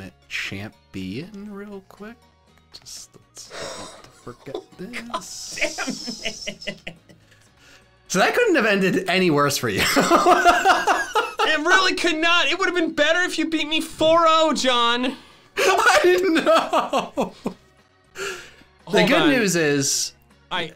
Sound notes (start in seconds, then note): 7.2 giggles; 9.9 laughs; 15.6 laughs